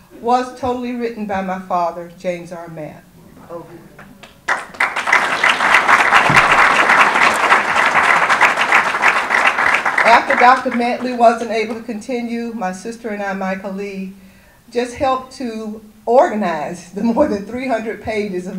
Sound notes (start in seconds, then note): 4.1 audience applause